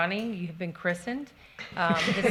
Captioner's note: participants laughing